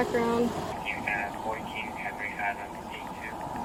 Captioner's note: radio chatter